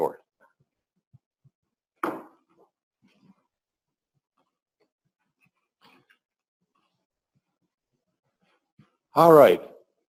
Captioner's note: pause